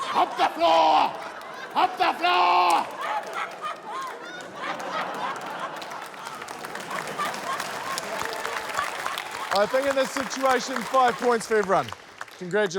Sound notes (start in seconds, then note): 2.9 laughter; 6.3 applause